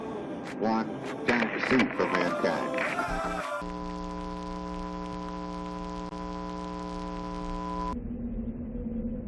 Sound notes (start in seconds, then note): 3.6 microphone feedback